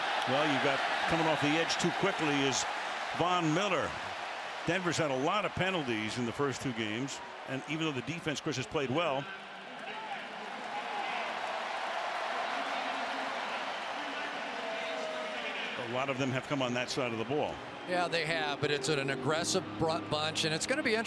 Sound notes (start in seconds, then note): 9.9 referee call; 12.1 cheers